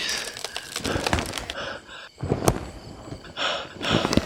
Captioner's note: crickets chirping